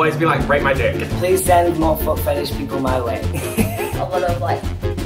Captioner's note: laughs